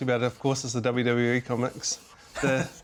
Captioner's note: laughs